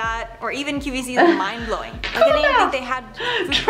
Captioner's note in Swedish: skratt